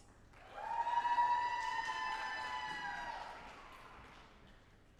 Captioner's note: audience applauding